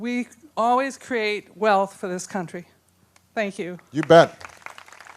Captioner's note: applause